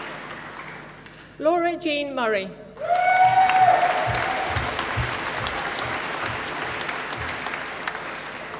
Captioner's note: applause